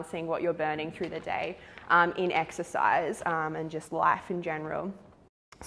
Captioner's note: none